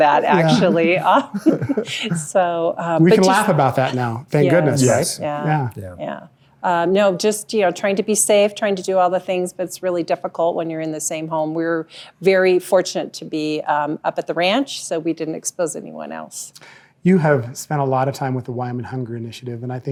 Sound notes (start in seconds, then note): 0.2 laughs; 0.2 chuckling